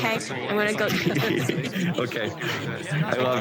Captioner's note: both laugh